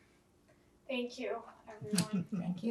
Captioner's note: laughing